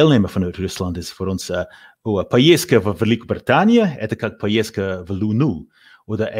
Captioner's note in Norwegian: snakker russisk